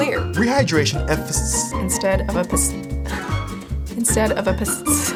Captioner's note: sigh